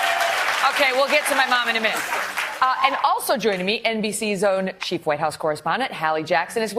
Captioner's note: applause